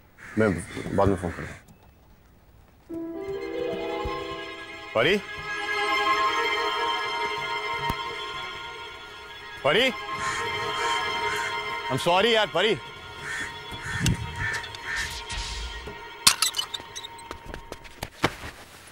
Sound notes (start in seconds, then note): 0.1 Crows cawing; 10.0 Crows cawing; 16.2 Gate sound